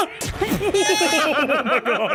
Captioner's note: yells; laughs